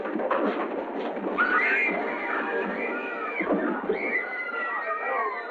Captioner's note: screaming